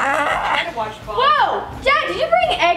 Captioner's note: grunting